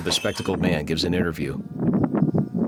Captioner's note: door creaks; wind blowing